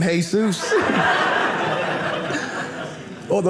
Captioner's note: audience laughing